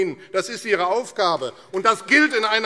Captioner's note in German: Beifall AfD